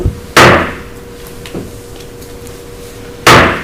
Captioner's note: gavel bangs